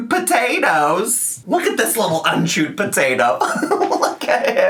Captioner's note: laughs